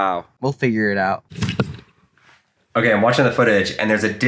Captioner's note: whooshing